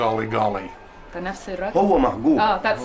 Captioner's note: non-english speech